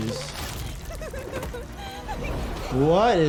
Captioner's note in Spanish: Uzi se ríe